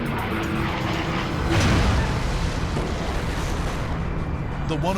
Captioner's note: engines roaring; metal tearing